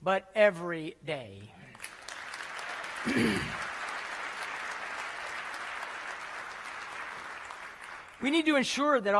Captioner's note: applause